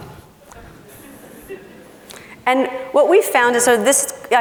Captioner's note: laughing